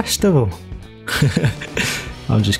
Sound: laughs

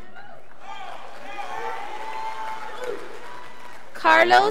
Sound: scholars applauding

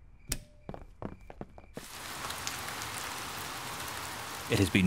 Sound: rain pattering

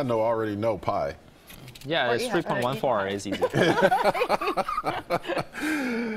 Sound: laughter

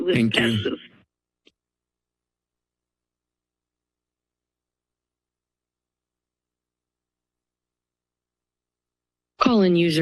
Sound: silence

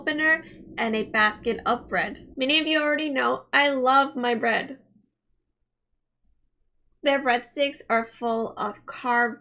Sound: mmmmm

